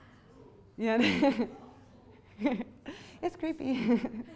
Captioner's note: laughs